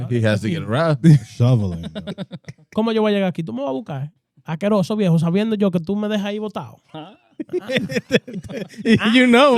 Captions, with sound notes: He has to get around. (Speaking In Foreign Language) You know